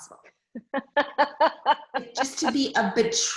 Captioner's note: laughs